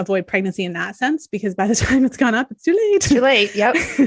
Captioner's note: chuckles